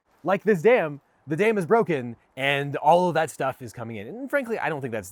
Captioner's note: none